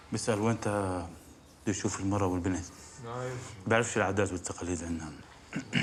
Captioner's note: speaks arabic